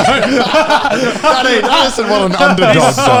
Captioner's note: laughing